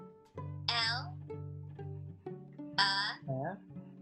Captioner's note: computer Voice